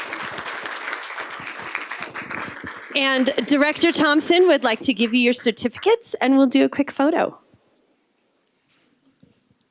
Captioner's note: applause